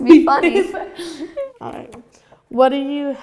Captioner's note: laughing